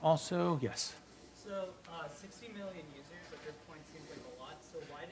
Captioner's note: voiceover